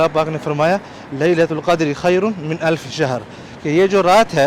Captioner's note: Arabic